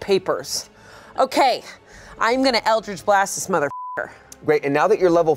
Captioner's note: beep